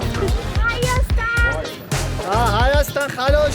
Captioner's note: in Armenian